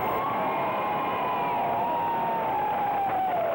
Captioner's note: people cheering